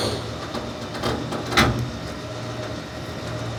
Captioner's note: crane whirring